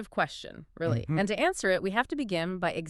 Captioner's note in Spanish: se aclara la garganta